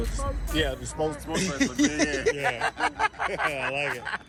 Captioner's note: laughing